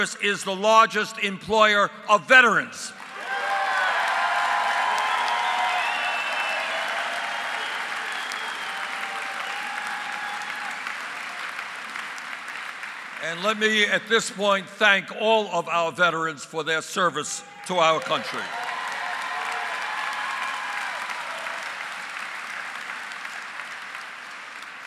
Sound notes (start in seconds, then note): 7.8 applause; 21.3 applause